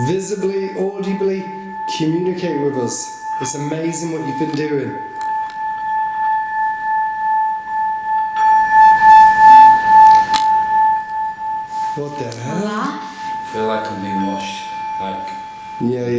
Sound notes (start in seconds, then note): 6.4 bowl continues to resonate